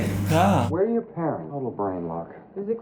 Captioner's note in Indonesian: Menghela nafas